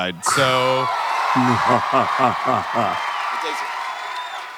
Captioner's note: audience cheers wildly; Isaac makes 'mwa-ha-ha' vocalization